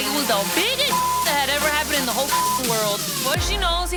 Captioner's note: beep